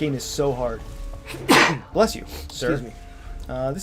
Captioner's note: gives a big fat sneeze